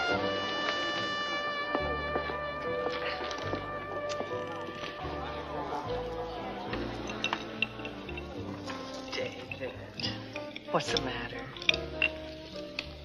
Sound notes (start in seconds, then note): 2.6 footsteps receding